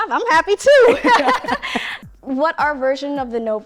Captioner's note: both laughing